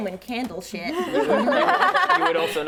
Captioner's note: laughing